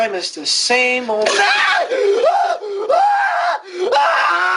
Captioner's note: screaming